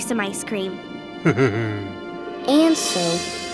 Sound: laughing

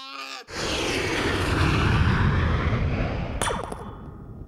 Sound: jet engines whooshing; sound of laser gun firing

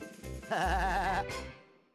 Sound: laughing

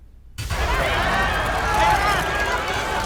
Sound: paparazzi yelling

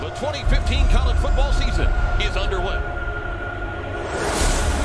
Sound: voiceover

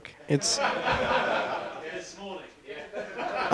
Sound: laughter

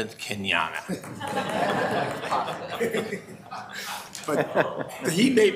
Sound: members laughing

